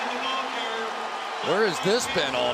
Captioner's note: cheering